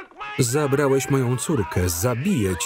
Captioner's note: screaming